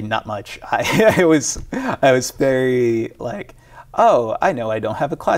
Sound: laughs

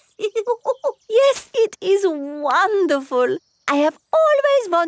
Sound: laughs

